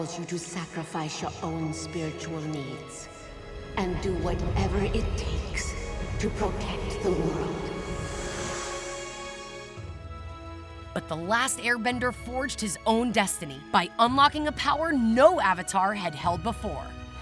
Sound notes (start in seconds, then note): none